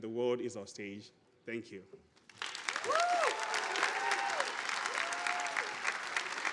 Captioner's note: audience applauding